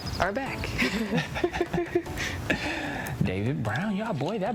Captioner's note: both laugh